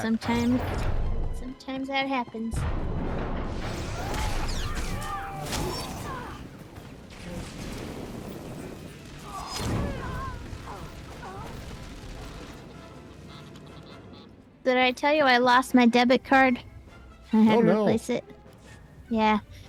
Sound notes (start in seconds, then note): 4.3 squeaking